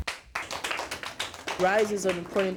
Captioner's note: claps